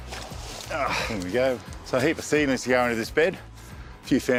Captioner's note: grunts